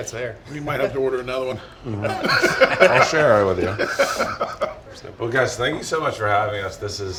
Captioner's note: laughs